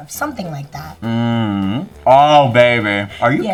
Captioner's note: humming